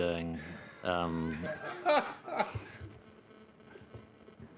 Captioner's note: laughter